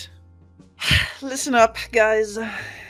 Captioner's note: sighs